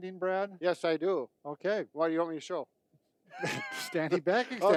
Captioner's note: laughing